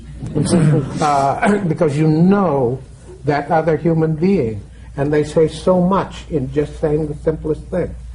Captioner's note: laughter